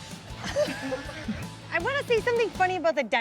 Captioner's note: laughs; server laughs